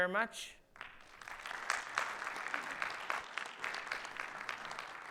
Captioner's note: audience applauds